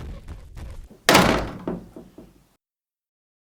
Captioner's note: door slamming